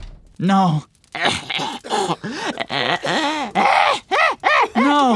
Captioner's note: cackling